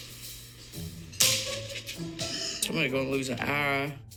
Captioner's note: shell cracking